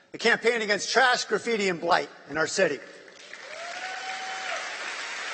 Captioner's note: applause